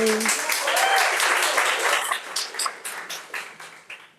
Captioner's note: audience applauds